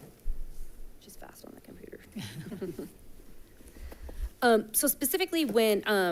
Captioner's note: chuckles